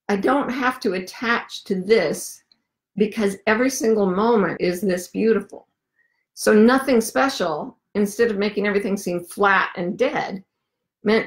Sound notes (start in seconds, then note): none